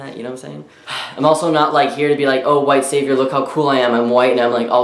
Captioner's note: sighs